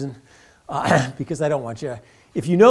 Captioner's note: cough